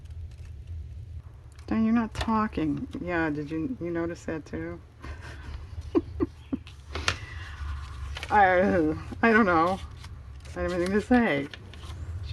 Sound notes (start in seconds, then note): 8.3 laughs